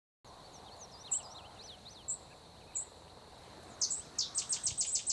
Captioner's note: birds chirping